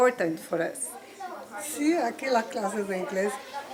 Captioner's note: speaking spanish